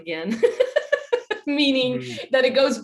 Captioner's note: laughs